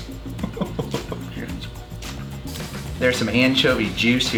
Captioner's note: laughs